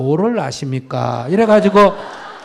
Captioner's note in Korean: 청중 웃음